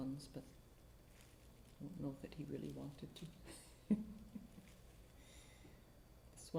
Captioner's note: softly laughs